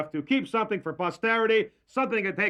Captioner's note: none